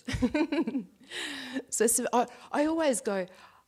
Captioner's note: laughs